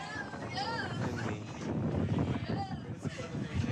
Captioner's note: wind blowing